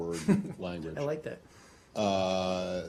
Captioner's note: laughter